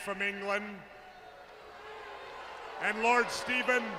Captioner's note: crowd cheering